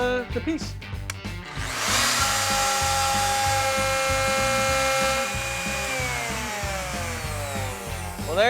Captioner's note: wood router whirring